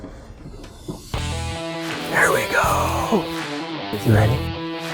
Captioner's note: whispering